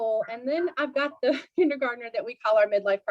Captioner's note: laughter